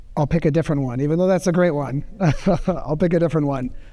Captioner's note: chuckles